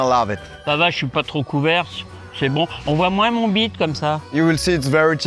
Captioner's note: speaks French